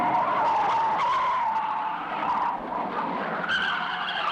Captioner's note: tires squealing